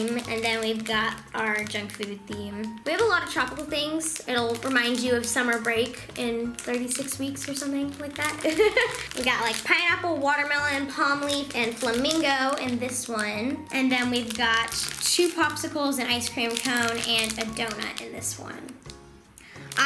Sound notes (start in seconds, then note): 8.0 laughs